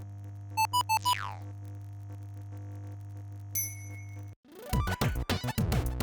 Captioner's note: video game sounds